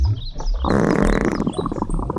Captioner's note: gas reflux; gas sounds